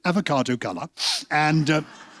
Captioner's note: sniffs